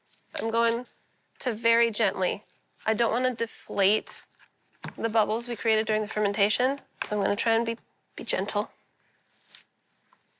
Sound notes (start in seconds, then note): none